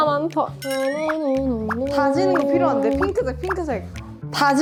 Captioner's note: trudge